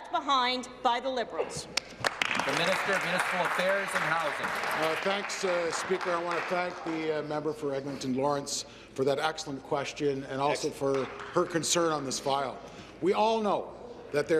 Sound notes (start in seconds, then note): 4.9 applause